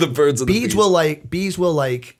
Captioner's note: chuckle